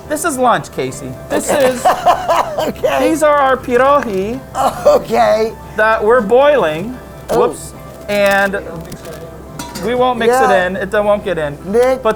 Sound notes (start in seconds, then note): 1.2 laughs